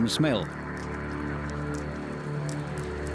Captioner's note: loud chomping